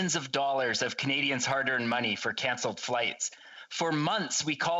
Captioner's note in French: voix de l'interprète